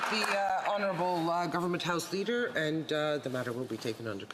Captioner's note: some Applause